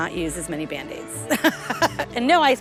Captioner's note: chuckles